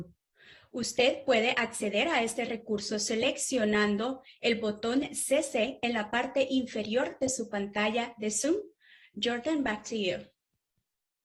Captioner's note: spanish